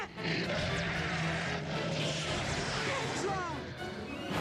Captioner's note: roaring